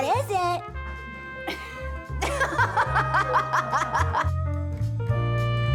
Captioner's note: laughs; molli laughs